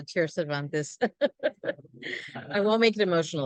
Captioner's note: laughs